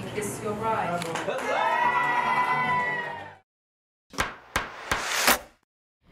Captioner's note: cheering